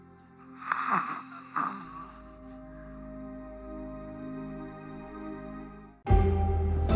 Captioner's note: snores